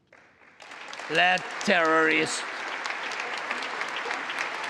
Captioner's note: congress applauding